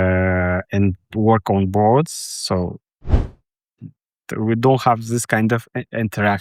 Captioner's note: none